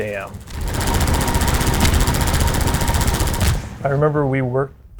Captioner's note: loud automatic gunfire